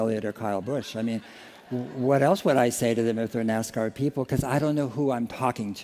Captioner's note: laughter